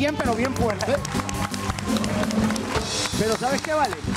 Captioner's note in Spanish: Aplausos